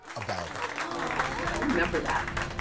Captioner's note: audience applauds